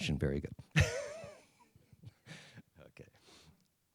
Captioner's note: laughs